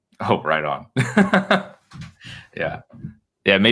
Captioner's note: laughs